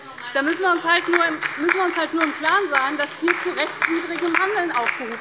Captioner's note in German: Demonstrativer Beifall bei der LINKEN